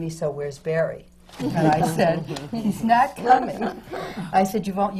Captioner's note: laughter